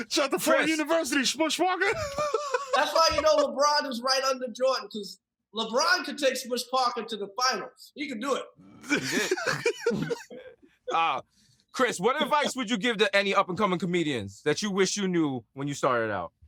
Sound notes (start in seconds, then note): 1.8 laughs; 10.4 desus laughs